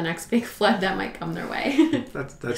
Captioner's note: laughs